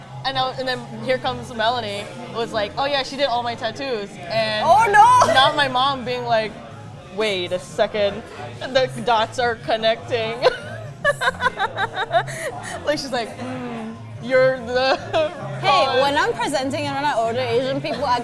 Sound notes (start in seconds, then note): 10.4 giggles